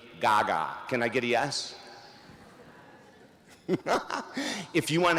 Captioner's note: laughs